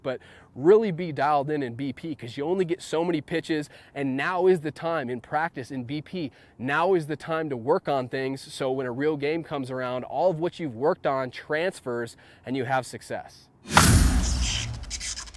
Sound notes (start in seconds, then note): 13.6 air whooshing; 13.7 baseball bat striking ball